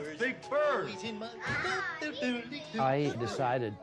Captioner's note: child chattering